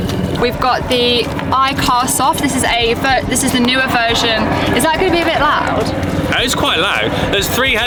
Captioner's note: sound of helicopter flying